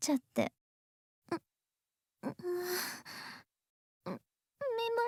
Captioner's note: groan